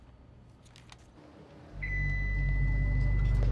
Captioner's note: suspenseful music; elevator pings